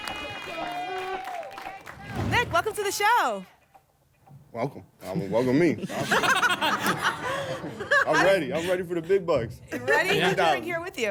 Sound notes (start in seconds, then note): 0.0 applause and cheering cont; 5.2 laughter